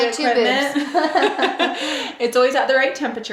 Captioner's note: laughing